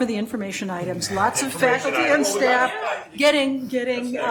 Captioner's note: chattering